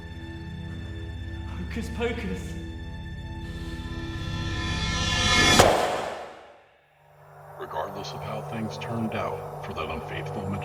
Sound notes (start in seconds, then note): 5.6 smash sound